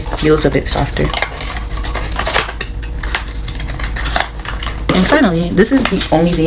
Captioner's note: packaging noises